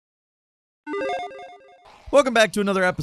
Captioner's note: game tone